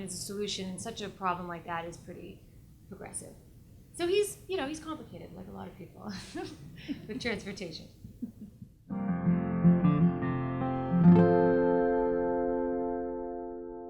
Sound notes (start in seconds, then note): 6.1 laughs; 8.8 lighthearted guitar music